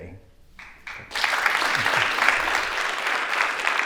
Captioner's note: applause